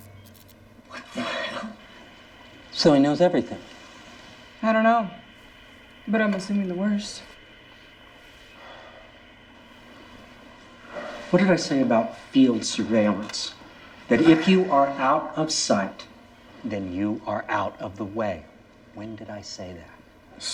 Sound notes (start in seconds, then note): 0.0 electric buzzing; 8.5 Dr. Broward sighs